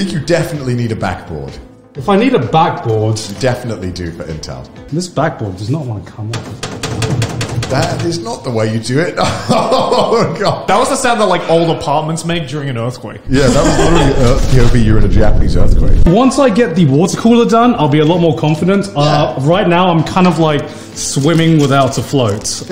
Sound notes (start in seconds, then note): 6.3 back board rattles; 9.1 chuckles